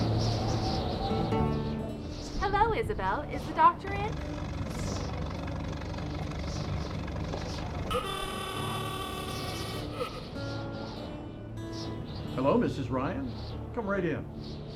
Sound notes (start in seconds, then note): 3.2 automobile chugging; 7.8 vintage horn blaring